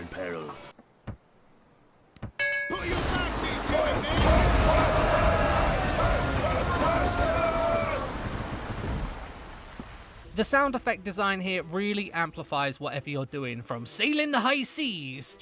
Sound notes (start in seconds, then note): 2.4 bell ring